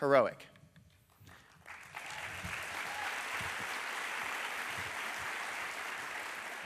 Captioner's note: applause